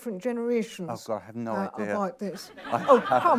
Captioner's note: laughs